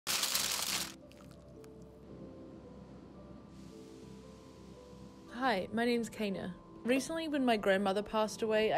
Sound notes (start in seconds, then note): 0.0 foil crinkling; 1.6 calming music; 4.0 towel softly brushing